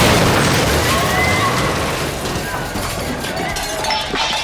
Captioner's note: people screaming